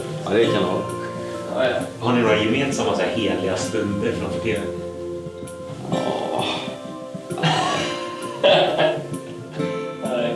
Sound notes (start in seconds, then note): 7.4 laughter